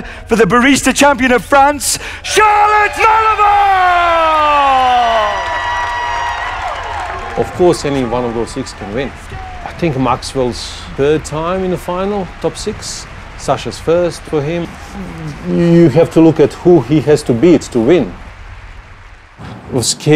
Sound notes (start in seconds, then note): 4.8 cheers and applause